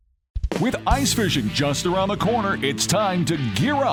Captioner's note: voiceover